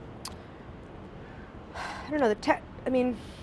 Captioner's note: sighs